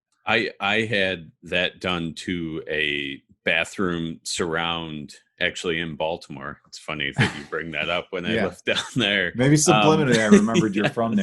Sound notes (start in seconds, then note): 7.1 laughs; 9.7 laughing; 9.8 both laughs